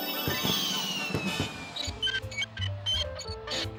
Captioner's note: exploding fireworks; wheels squeaking